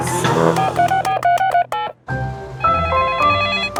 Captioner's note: beeping; phone ringing